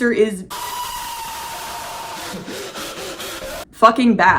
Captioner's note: femur breaker screaming